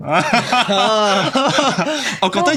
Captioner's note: laughs